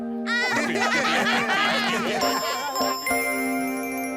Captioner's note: laugh